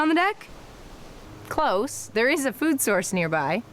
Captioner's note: sarcastic